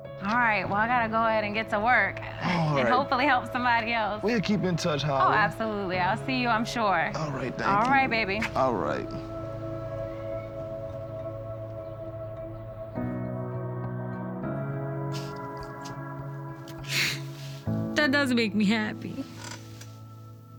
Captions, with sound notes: All right, well, I gotta go ahead and get to work, and hopefully help somebody else. -We'll keep in touch, Holly. -Oh, absolutely. -I'll see you, I'm sure. -All right. -Thank you. All right. -All right, baby. [gentle, hopeful music plays] [inhales sharply] That does make me happy.